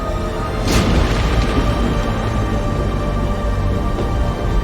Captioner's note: crashing thud